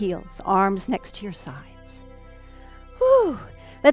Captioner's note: sigh